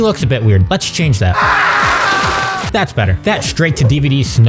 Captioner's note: screaming